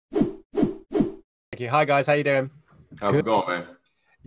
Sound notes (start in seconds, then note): 0.3 whooshing